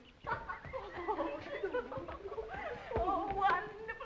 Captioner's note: girls giggling